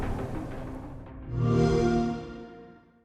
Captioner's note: xbox sound